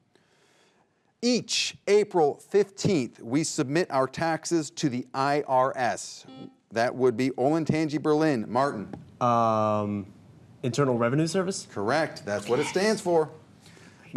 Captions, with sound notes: - Each April 15th, we submit our taxes to the IRS. (buzzer buzzes) That would be Olentangy Berlin, Martin. - Internal Revenue Service? - Correct, that's what it stands for.